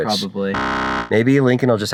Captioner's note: blipping